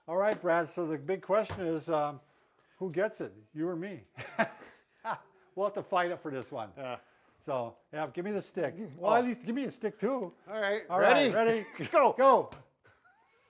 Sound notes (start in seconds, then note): 4.2 both chuckle